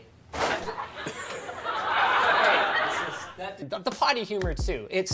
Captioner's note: crowd laughing